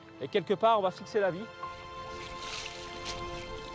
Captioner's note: speaking in foreign language; gentle music